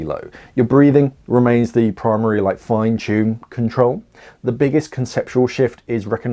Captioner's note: breathing